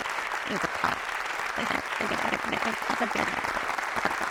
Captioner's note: applause